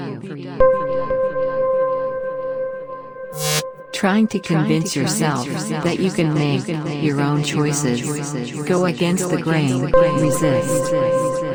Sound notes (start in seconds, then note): 3.4 screen crackles; 5.2 voice echoing